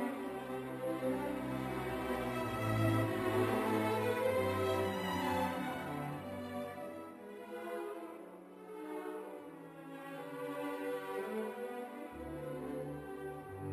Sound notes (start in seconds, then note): none